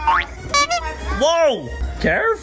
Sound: horn honks

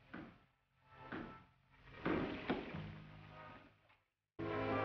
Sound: hammer pounding; suspenseful music

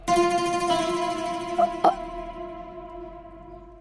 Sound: burping

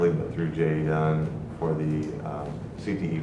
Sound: speaking faintly

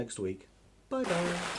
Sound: big Splash!

